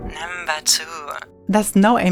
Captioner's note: electronic Voice